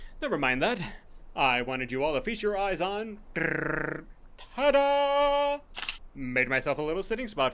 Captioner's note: drumrolls sound with mouth